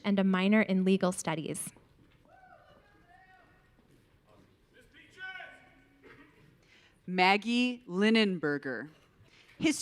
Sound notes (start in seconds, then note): 2.1 audience cheering